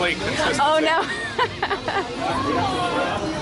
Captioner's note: laughs